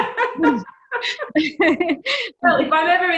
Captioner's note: laughs